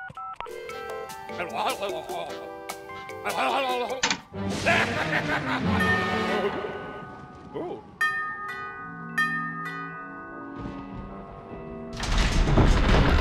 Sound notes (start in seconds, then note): 0.0 dialing phone number; 0.3 elevator muzak plays; 3.2 laughing; 3.8 thunder crashes; 5.0 doorbell rings